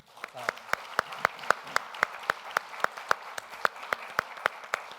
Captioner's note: all applauding